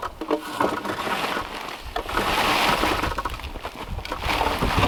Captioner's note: log crunching and thudding